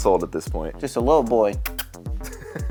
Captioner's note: kiss sounds